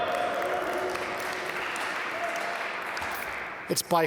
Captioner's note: audience applaud